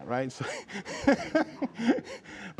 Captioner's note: laughter